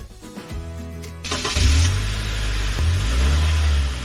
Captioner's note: sound of engine running